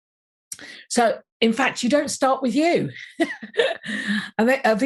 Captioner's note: laughs